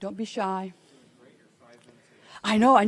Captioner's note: attendee speaking softly